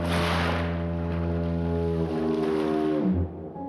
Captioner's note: fog horn